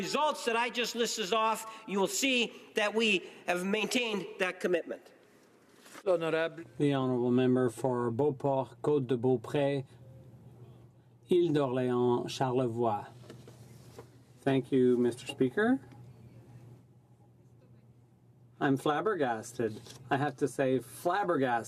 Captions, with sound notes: GOVERNMENT TAKES ITS COMMITMENT VERY SERIOUSLY AND BY THE RESULTS THAT I JUST LISTED OFF, YOU WILL SEE THAT WE HAVE MAINTAINED THAT COMMITMENT. >> THE HONOURABLE MEMBER. (SPEAKING FRENCH). >> THANK YOU, THERE SPEAKER.